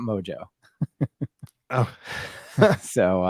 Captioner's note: laughs